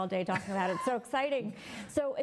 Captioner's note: laughs